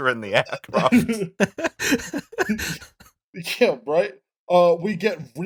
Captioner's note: laughter